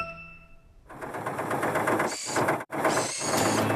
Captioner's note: engine Running